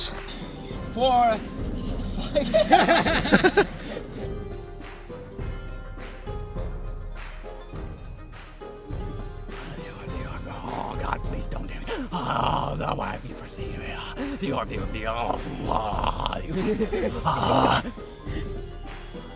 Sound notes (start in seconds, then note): 9.7 groaning about the orb